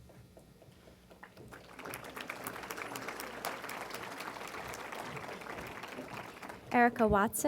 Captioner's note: applause